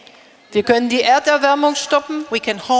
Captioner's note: speaking in German